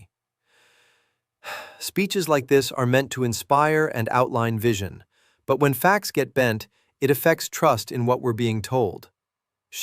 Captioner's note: sighs